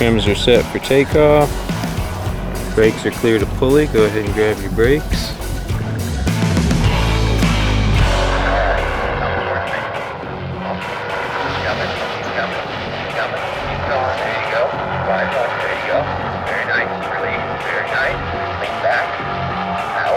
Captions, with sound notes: Trims are set for takeoff, brakes are clear to pulley. Go ahead and grab you brakes. (hard rock music) (airplane overhead) - [Ground Radio] Keep comin', keep comin', keep comin', keep goin', there you go. Keep comin', there you go. Very nice, release. Very nice, lean back.